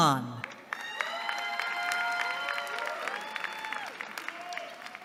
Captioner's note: cheering